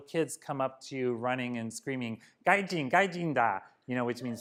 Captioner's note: japanese